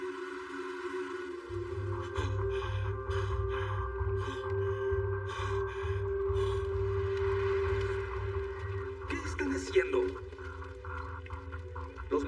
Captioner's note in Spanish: Respira agitado